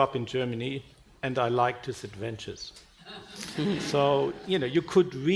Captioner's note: audience laughing